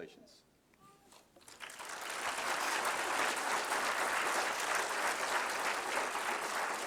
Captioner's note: applause